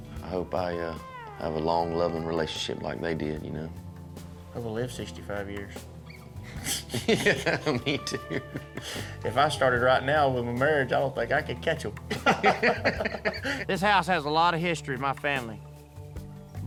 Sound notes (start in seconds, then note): 6.6 laughter; 12.0 laughter